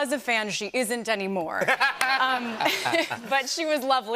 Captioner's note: laughter